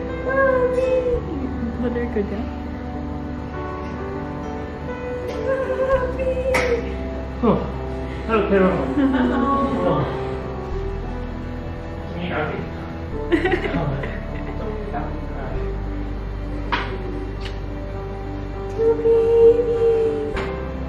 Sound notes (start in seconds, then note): 13.2 laughing; 17.2 kiss